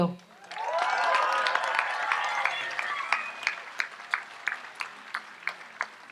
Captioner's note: audience applauds and cheers